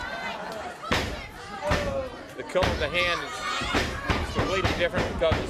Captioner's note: crowd chatter